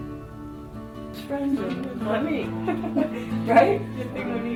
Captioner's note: laughs; speaking Spanish